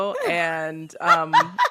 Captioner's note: laughs